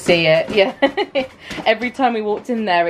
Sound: boards clattering

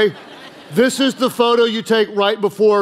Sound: congregation laughing

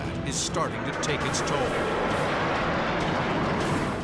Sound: jet engine noises

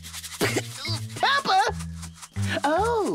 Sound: spits

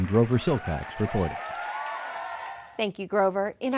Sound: cheers

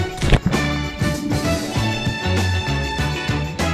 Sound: splashing

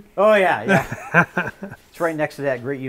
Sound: laughing

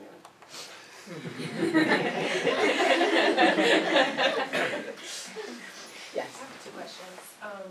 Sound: laugh

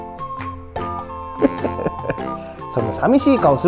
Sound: laughs

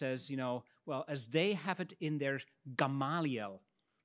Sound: speaks in Latin

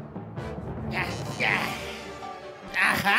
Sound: GANON grunting

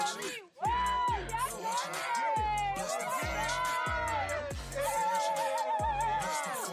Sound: all cheer

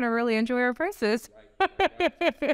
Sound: laughs

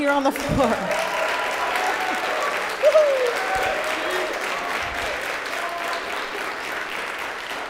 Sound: applause

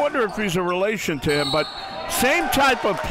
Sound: whistle blows

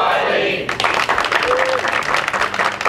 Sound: applause

